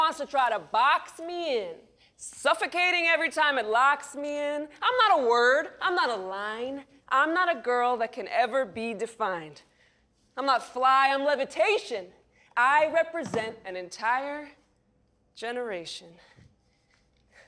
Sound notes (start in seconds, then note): none